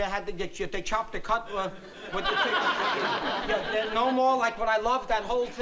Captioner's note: stammering